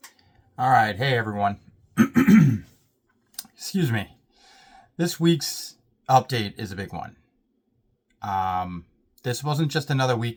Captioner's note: clears throat